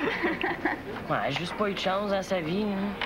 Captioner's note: Rires